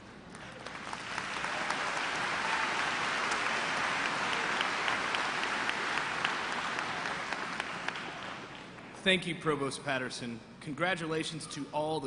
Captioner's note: applause